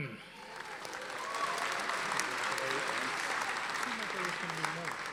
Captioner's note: audience applauding